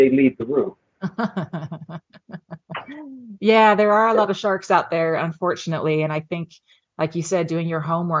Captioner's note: laughing